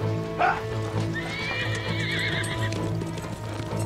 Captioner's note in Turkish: At kişneme sesi